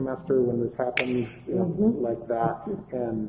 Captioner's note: snaps fingers